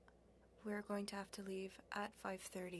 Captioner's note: speaking French